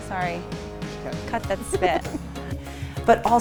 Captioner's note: laughs